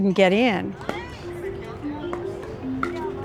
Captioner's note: court noises